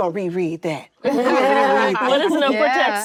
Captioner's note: actresses laughing